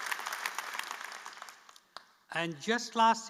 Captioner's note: applause